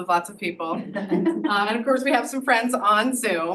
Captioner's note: audience laughs